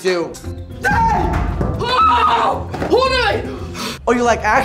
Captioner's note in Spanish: Juanpa Zurita y Hannah Stocking gritando